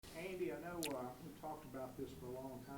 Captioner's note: voiceover